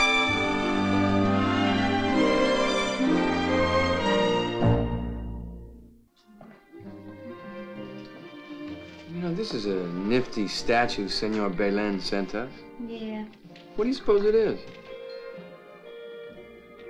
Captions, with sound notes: (tingling) (gentle music) You know this is a nifty statue Senor Belin sent us. - Yeah. - What do you suppose it is?